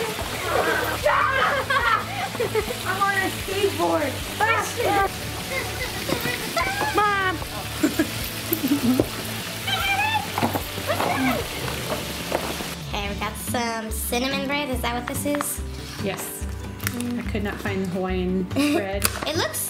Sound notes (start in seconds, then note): 0.0 laughing; 0.2 yelling; 5.3 giggling; 5.5 yelling